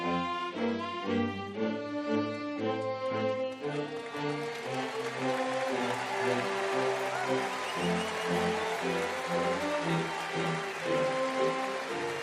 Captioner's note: applause